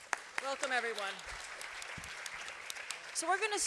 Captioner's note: applause